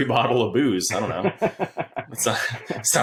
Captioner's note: laughing